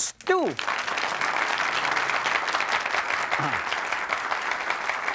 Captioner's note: audience applauds